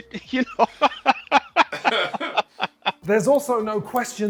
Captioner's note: both laughing